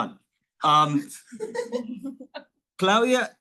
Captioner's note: all laughing